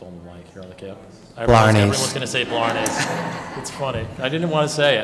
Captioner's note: laughter